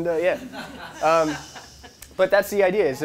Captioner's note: laughing